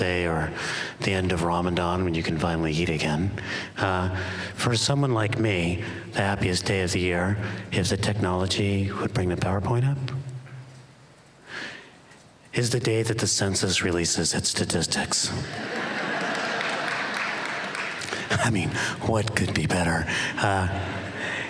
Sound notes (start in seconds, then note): 15.4 laughter